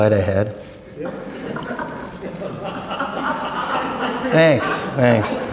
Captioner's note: laughter